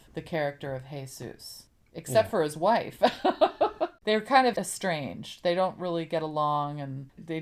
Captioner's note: laughs